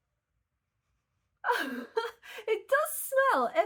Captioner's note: laughing